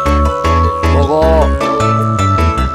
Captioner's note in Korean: 굵은소리로